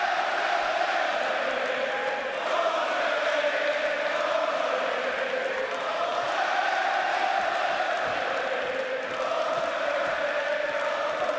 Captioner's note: crowd cheering